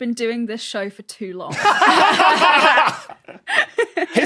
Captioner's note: group laughs uproariously